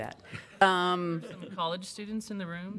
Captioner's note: laughter